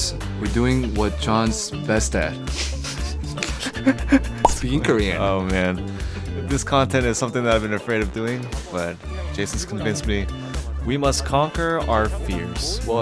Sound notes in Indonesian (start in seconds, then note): 2.6 tertawa